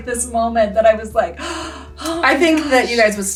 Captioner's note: gasps